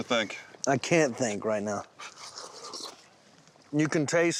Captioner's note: slurping